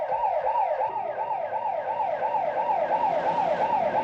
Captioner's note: police siren blaring